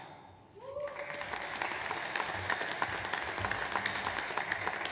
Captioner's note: audience applauds